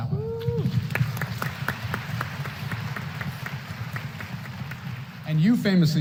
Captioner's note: applause